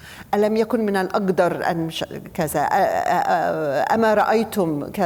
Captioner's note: speaking foreign language